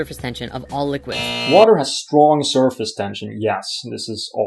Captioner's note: buzz